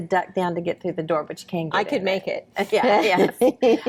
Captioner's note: laughs